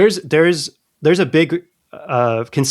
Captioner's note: uh